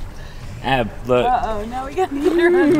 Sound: laughing

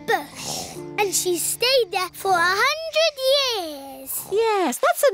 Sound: snoring

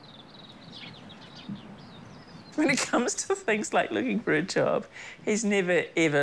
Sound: chuckles

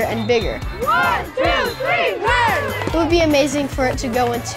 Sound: girls chanting

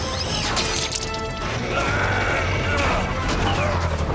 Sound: grunting

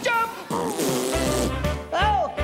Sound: raspberry Sound

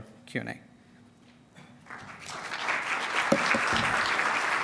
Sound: applause

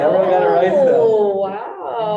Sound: group exclaims

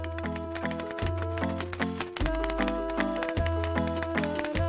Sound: circus music; typewriter clacking

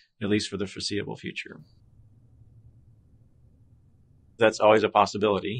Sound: silence

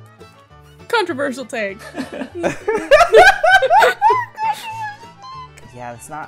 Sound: laughs

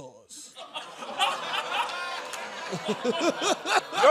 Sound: laughter

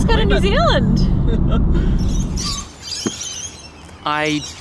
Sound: laughing

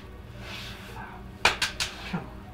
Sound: hand banging flashlight

